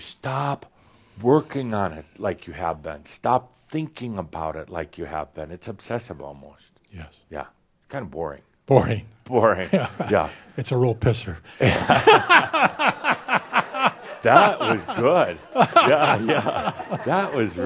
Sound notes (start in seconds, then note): 11.6 laughter; 11.6 chuckles; 16.2 laughing loudly